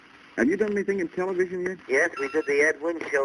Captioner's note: on phone